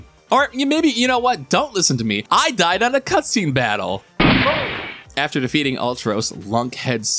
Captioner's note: gunshot